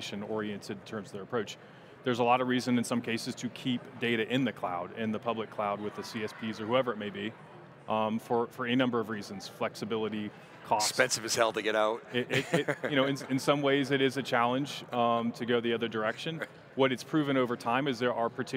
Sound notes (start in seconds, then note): 12.1 chuckles